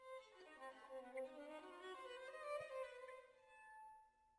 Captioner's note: none